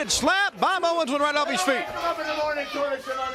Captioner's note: crowd cheering